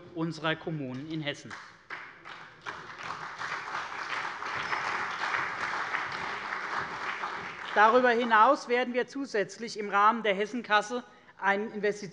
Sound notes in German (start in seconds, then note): 1.4 Beifall bei der CDU und dem BÜNDNIS 90/DIE GRÜNEN